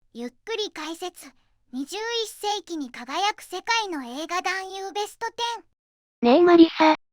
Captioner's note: slow commentary